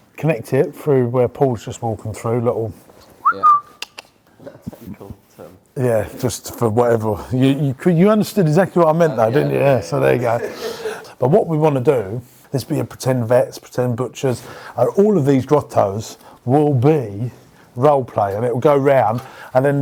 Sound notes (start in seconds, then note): 3.2 whistling